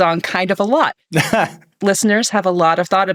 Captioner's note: laughing